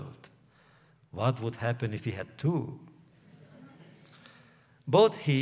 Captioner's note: laughter